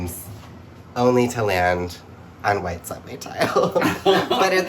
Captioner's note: laughs